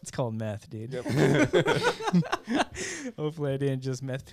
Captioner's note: laughing